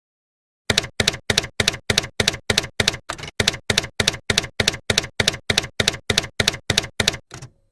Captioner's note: typewriter keys clacking